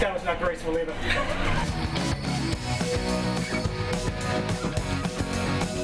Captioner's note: laughter